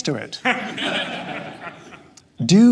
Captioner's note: audience chuckles